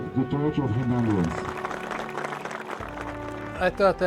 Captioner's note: crowd applauding